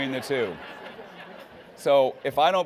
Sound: laughing

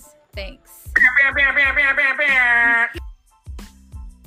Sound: vocalizing alarm sounds

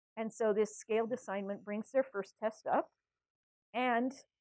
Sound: none

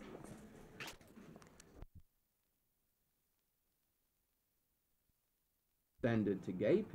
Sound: silence

